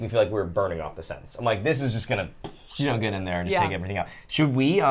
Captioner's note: puffs